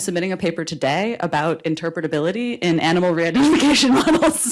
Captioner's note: laughs